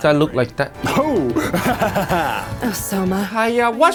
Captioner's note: laughs